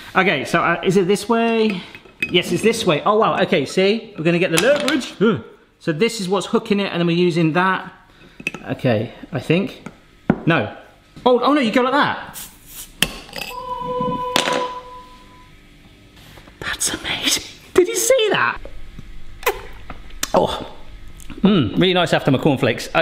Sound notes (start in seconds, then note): 13.1 bottle hisses; 13.5 angelic music